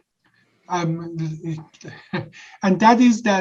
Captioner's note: giggles